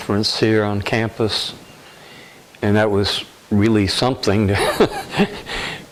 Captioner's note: laughter